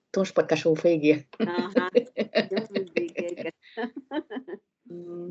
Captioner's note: laughter